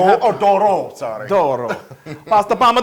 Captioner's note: laugh